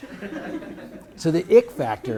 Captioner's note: audience laughs